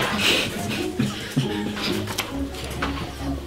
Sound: chuckling

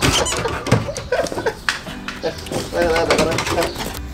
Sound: laugh

